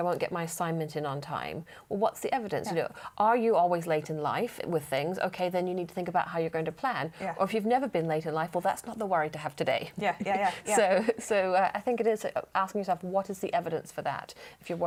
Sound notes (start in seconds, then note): 10.3 laughter